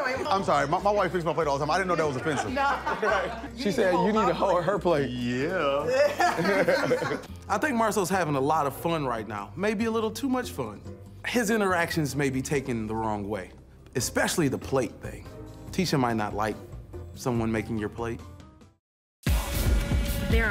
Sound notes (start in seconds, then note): 1.9 laughs; 5.9 laughter